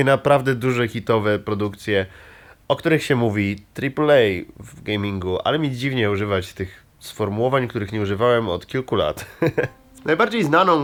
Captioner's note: laugh